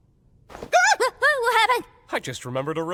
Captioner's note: shrieks